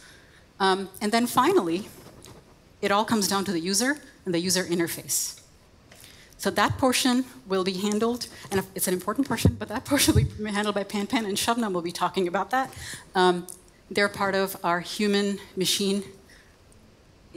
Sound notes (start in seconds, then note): none